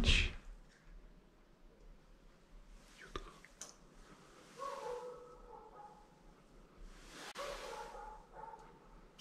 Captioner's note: dog barking